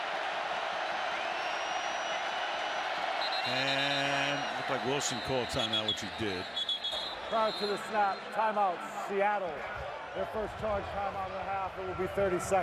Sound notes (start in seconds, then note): 3.1 whistle